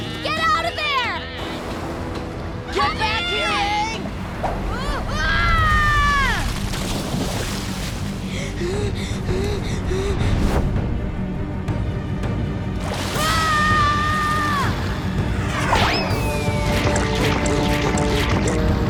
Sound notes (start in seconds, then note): 4.3 grunting, screaming; 6.8 splashing; 8.3 gasping; 13.1 screaming